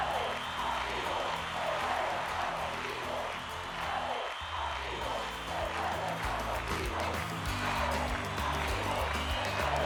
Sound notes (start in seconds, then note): 3.5 chanting continues